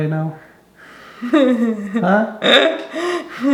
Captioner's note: laughing